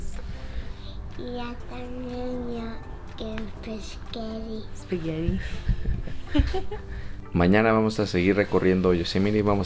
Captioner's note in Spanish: risas